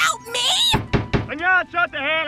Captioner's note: knock